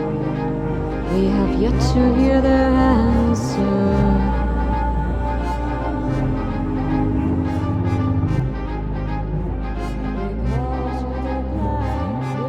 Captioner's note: echoing